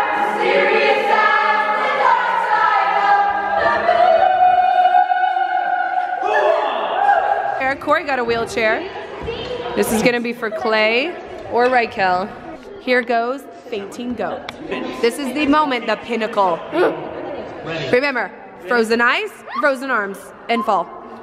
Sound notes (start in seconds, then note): 16.9 grunts